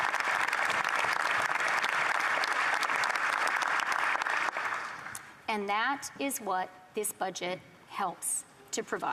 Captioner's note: applause